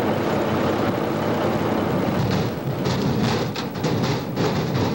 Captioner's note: logs offloading